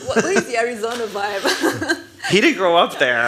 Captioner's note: laugh